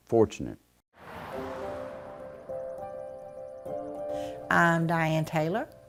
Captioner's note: car drives past